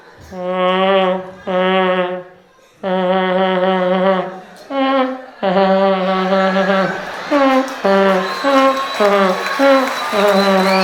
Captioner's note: sound of a vuvuzela